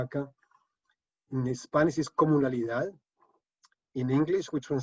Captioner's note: speaking spanish